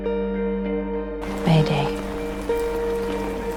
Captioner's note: voiceover